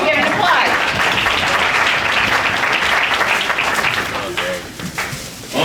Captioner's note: audience applauding